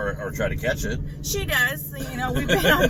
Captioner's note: laughs